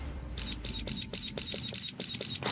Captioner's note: shutter clicking